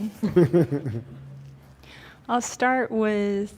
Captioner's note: chuckling